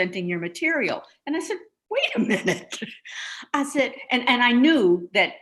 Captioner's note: chuckles